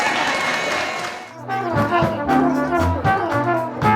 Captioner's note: cheering